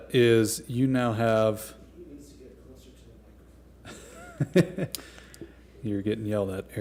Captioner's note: laughter